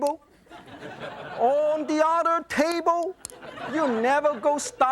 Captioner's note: audience laughs